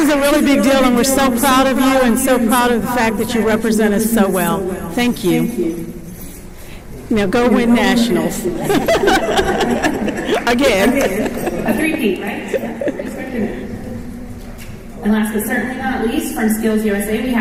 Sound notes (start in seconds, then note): 8.5 chuckles